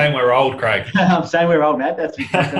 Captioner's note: laughing